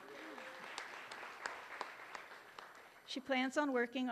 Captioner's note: applause